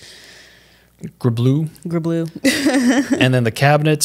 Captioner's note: laughs